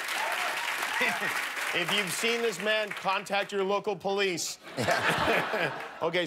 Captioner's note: applause